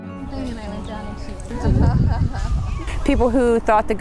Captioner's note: laughter